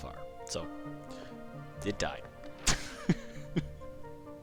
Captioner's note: laughter